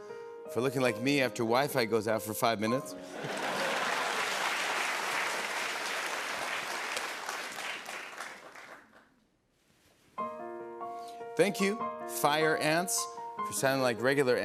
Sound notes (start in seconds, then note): 3.0 laughter, applause